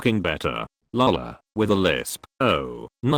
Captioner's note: with a lisp